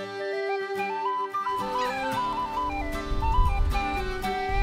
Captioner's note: cat meows